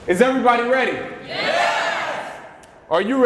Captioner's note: crowd cheers